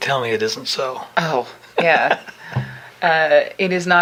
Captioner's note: laughing